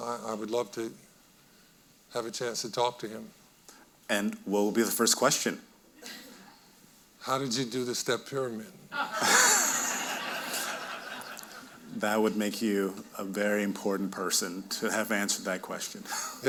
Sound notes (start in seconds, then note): 9.0 audience laughing